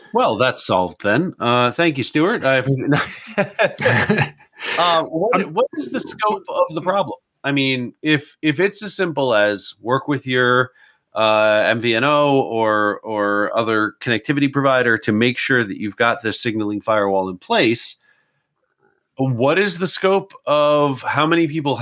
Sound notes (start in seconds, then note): 2.4 both laugh